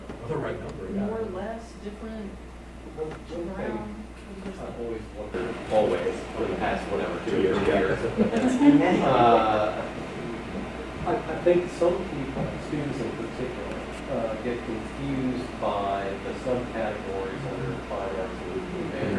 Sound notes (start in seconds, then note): 9.8 laughing